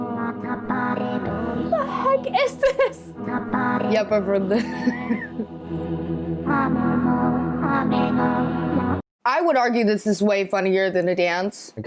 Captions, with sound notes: - The heck is this?! - Yup, I've heard this. (laughs) I would argue this is way funnier than a dance.